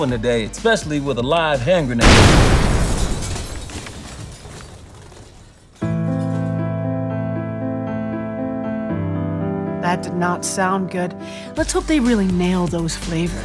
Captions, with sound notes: especially with a live hand grenade. [explosion] [sad music] - That did not sound good. Let's hope they really nail those flavors.